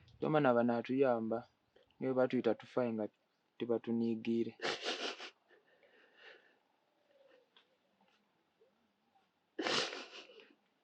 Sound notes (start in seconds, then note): 4.5 sobbing; 9.5 sobbing continues